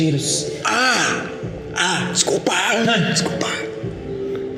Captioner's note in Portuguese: sussurrando